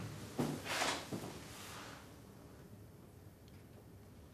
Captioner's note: none